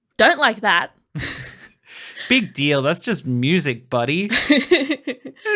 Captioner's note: laughing; laughing